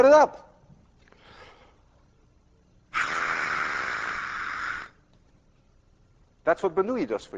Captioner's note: inhales deeply, blowing hard